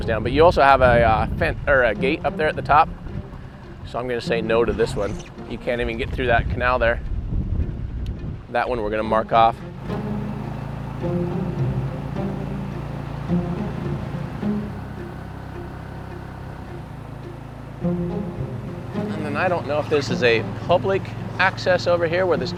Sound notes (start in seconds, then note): 10.1 boat engine droning; 10.1 pensive music